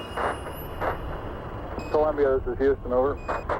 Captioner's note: radio static